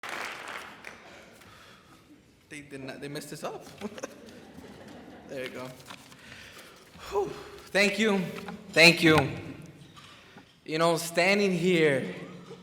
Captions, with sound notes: (crowd claps) Think they messed this up! (crowd laughs) There you go. (sighs) Thank you, thank you. Standing here,